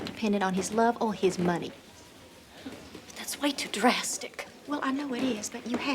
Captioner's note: none